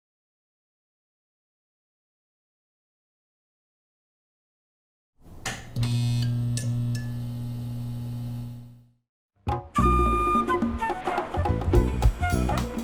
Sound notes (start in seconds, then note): 5.6 lights flickering; 9.5 orchestral music